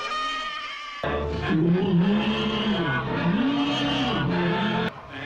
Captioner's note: llama bleats; cows mooing; sheep bleating